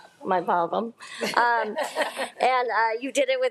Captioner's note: trustees laughing